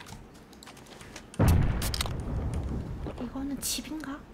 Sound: boom

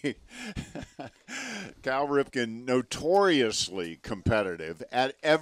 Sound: laughing

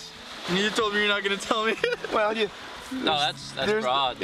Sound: laughter

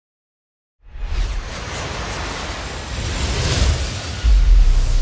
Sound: airplane whooshing

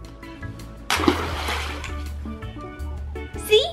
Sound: splash

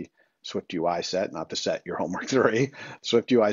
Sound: chuckles

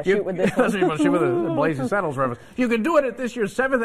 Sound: laughter

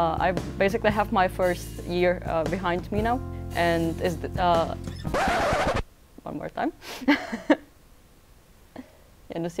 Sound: scrached record sound

